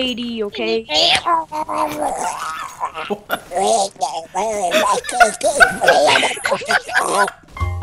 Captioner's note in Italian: Imitazione di Donald Duck scherzosa